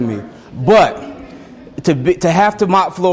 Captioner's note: students laugh